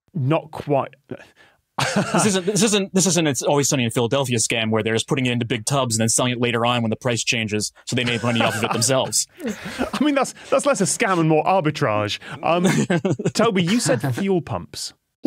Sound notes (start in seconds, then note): 1.8 hesitant laugh; 12.2 chuckles